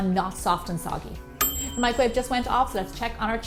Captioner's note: ding!